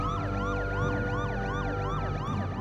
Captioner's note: police sirens